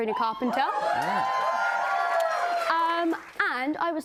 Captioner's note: cheers and applause